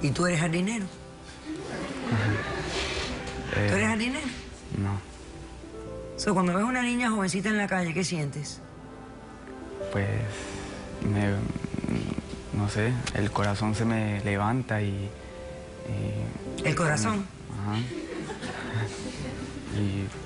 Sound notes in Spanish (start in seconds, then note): 1.6 risas; 17.7 risas